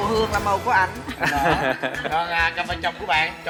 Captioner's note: laughing